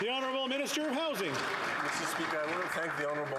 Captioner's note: some Applause